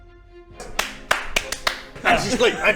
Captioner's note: clapping